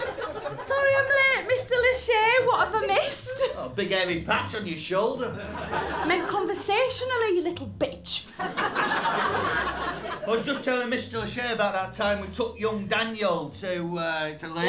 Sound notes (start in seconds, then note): 0.0 laughter; 8.3 laughter